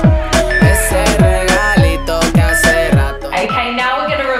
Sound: workout timer beeping

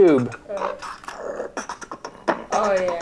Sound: recording plays louder

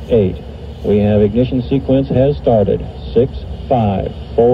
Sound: recorded audio continues

